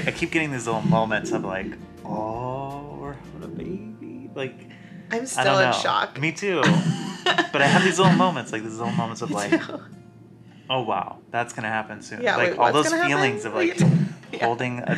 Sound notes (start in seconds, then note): 6.6 laughing